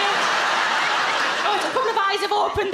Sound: crowd laugh

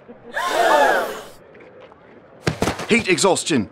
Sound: crowd gasps

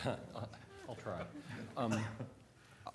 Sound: laughter

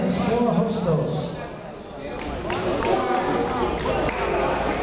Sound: chatter

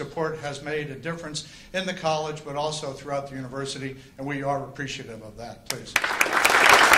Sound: applause

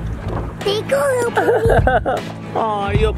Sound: laughing

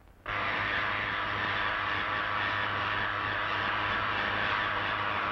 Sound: electricity zapping

